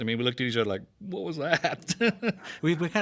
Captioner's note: laughs